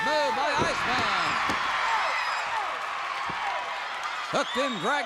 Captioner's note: crowd cheers